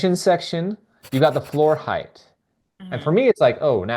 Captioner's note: pencil scribbling